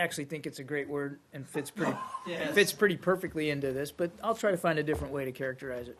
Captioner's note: laughter